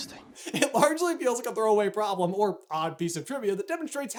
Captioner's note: laughing